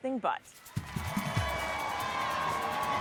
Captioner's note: crowd cheering